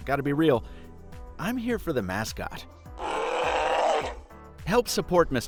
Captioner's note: bear growls